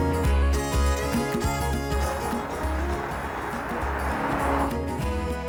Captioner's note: car engine revving